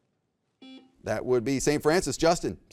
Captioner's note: buzzer beeps